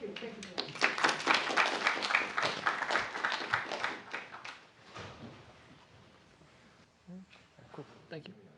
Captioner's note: applause